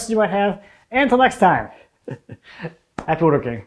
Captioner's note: laughs softly